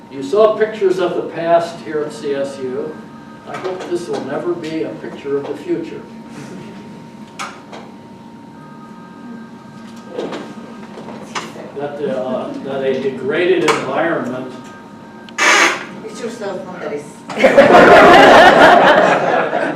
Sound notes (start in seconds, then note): 8.4 phone ringing; 14.4 phone ringing